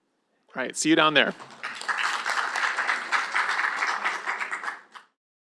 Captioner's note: applause